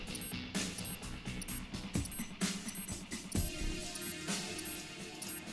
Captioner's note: bleep sound of activation of detonator; continuous bleep sound of bomb counting down